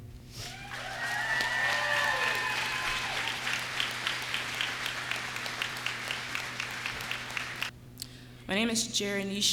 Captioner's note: cheers and applause